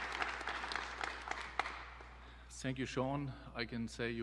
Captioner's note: applause